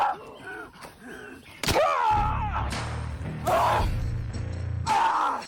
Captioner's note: wet bone crunch